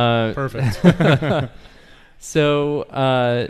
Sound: men laugh

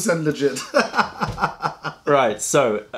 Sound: laughter

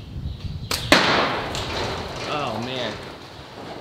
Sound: thunking clay ammo

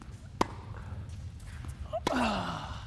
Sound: racquet hits ball

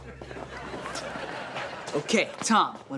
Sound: laughing

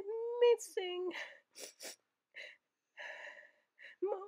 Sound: sniffs in sorrow

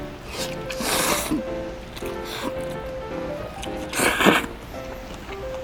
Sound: slurping noodles X 5

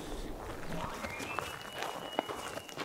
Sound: caller bugling

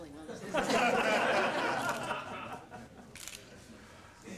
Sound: laughter

